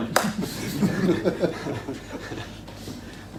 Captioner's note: laughing